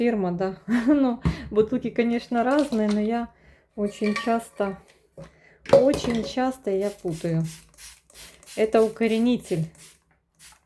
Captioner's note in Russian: смех